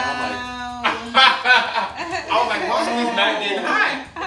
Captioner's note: laughing